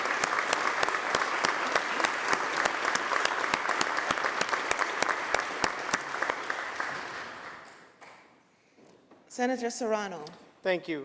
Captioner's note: applause